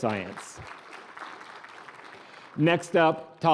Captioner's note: applause